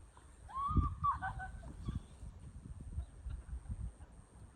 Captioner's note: laughing happily